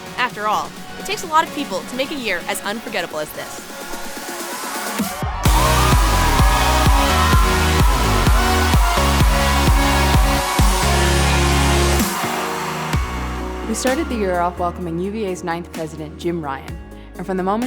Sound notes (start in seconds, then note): 5.8 crowd cheering